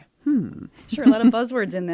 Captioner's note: chuckles